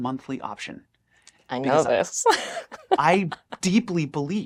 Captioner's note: laughs